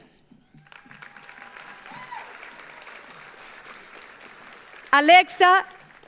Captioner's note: audience applauds; audience cheers